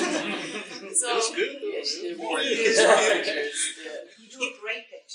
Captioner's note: laughter; audience affirmation